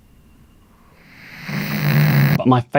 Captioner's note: snoring